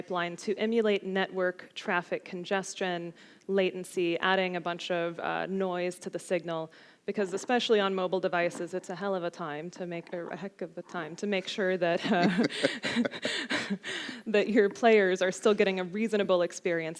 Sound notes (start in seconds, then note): 12.0 both laugh